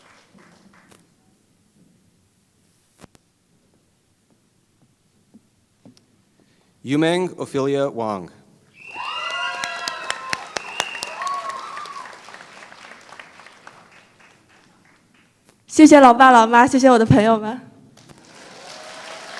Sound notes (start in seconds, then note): 0.0 applause; 12.6 applause; 15.5 foreign Language